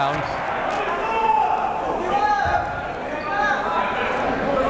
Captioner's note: yelling